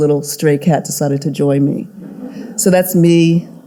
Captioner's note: audience laughing